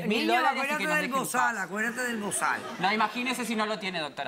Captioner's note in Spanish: Risas